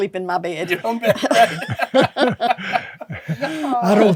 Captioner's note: laughing